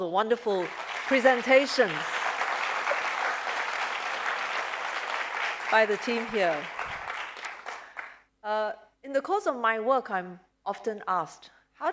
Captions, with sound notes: the wonderful presentations-- [APPLAUSE] --by the team here? In the course of my work, I'm often asked,